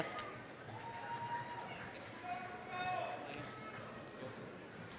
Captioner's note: applause, cheering